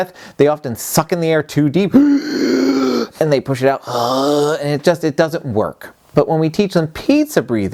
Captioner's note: inhales; exhales